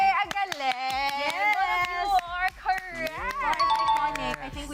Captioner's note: kring; rings